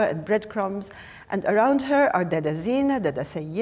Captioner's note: speaking foreign language